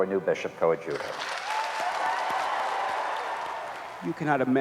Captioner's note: cheering and applause